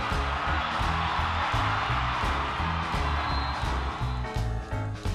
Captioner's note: cheering